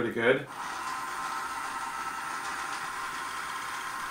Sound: motor

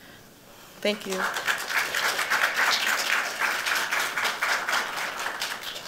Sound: applause

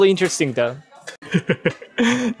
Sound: chuckle

